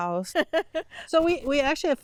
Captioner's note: laughs